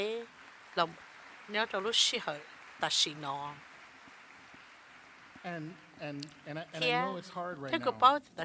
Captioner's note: applause